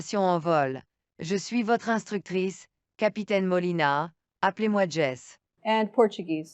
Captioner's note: female voice 7 speaking french; speaking french